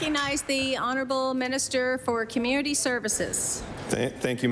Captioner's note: applause